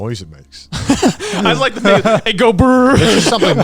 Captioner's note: laughs